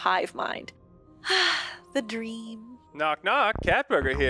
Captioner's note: sigh